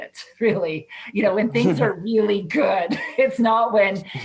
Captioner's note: laughs